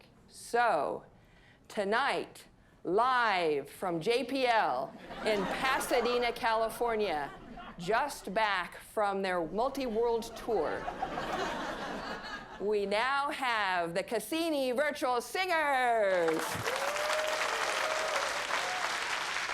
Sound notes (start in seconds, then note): 10.5 audience laughing; 16.2 audience applauding